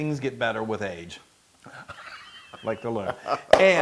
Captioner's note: laugh